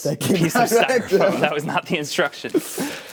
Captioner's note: laughing